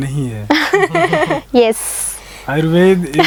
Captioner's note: laughing